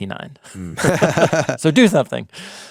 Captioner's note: laughing